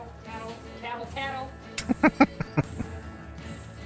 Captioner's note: chuckling